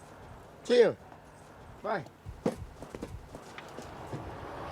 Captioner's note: footsteps pattering